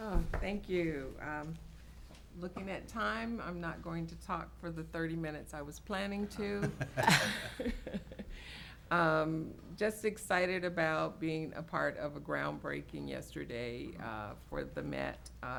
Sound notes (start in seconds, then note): 6.5 people chuckling